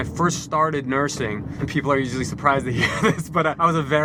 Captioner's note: laughs